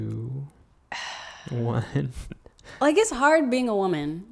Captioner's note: sighs; laughs